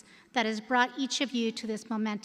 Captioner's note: none